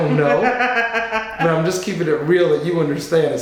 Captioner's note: laughing